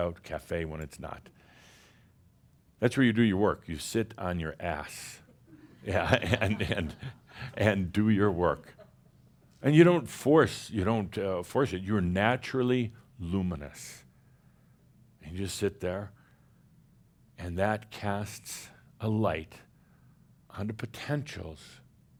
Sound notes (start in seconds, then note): 5.3 chuckles